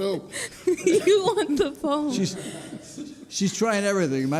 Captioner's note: laughing